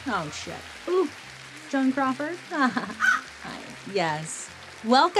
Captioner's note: Joan caws